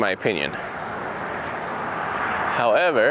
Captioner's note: traffic roaring